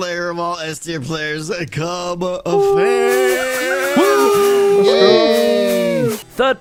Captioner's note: cheers